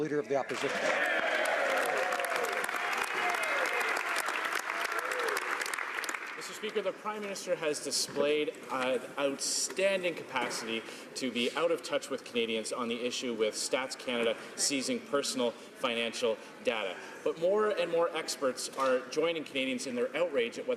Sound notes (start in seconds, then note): 1.0 speaking French; 4.0 some Applause